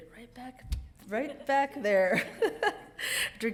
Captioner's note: laughs